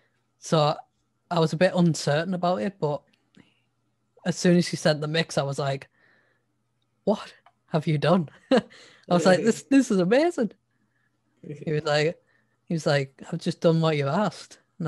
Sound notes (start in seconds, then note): 9.1 laughs